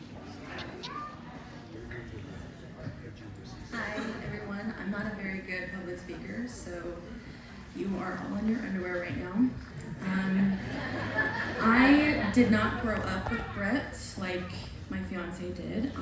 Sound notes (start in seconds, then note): 10.5 laughter